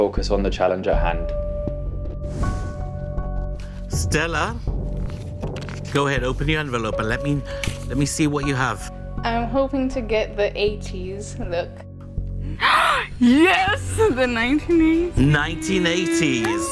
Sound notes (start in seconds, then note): 12.4 gasps